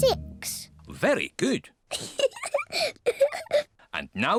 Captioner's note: laughs